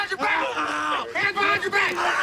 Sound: screaming

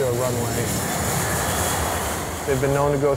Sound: engine roaring

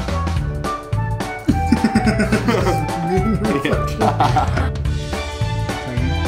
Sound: laughing

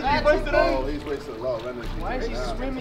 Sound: group murmuring

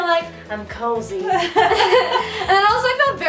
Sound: laughing

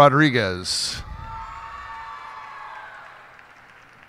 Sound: cheers and applause

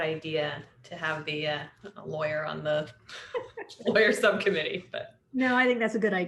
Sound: laughter

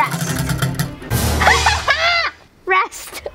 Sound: laughs loudly

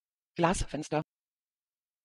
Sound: fast Pronunciation

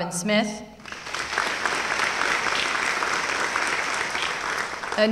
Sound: applause

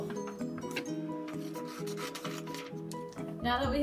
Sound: scissors Cutting

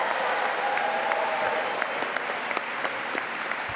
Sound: applause

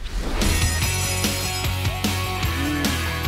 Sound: upbeat music; school bell ringing

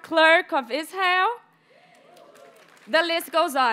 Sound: audience members cheer and applaud

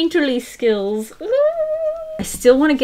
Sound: excited squeal

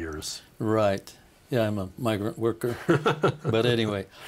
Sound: laughing

